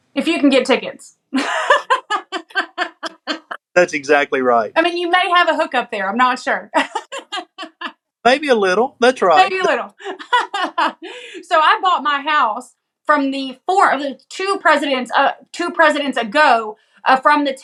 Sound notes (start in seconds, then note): 1.4 laugh; 8.2 laugh